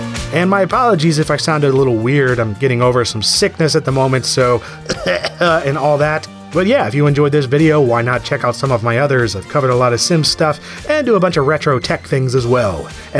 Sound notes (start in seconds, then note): 4.7 cough cough